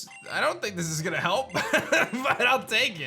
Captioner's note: chuckles